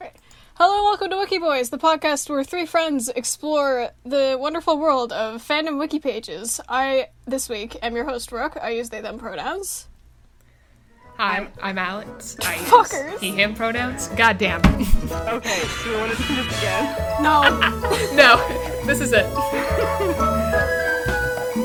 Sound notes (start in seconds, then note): 0.0 quietly; 0.0 sniffs; 15.4 cackles; 19.5 laughs